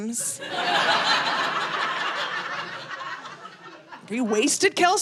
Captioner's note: audience laughing